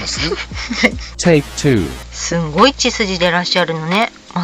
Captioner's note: laughs